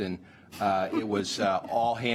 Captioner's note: laughter